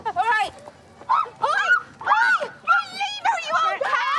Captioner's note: screaming